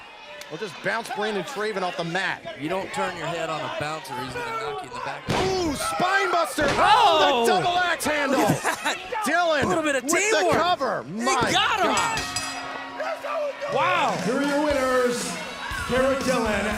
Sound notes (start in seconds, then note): 11.8 bell ringing